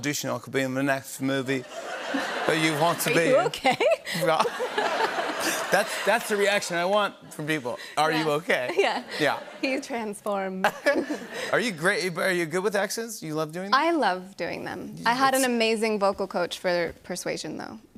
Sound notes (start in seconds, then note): 2.9 laughing; 4.2 laughter; 5.4 normal voice